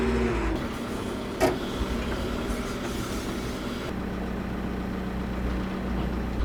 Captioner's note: telehandler engine rumbling continues